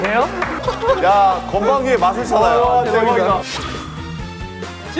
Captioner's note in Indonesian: Tertawa terbahak-bahak